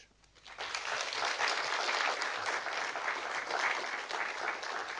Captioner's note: audience applauding